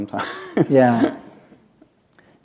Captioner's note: chuckle